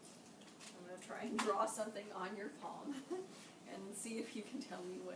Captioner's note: laughing